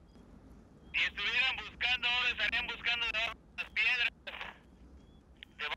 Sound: man on radio speaks Spanish

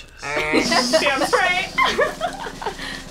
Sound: speaks in foreign language

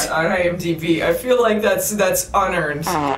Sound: fart noise

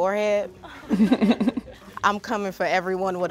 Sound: all laugh

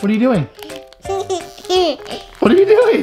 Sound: giggles

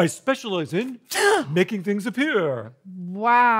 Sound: gasping

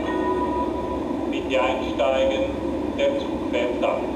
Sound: foreign language

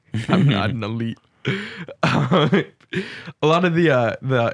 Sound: laughs

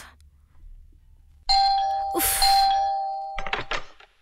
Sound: door bell rings

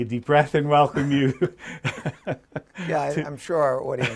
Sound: laughs

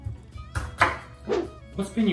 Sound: chopping

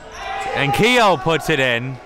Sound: yelling

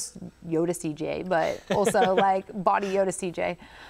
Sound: laughs

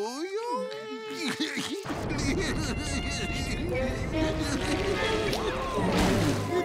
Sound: crying

